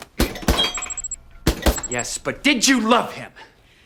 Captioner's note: robot beeping